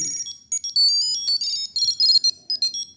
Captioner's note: tracker sound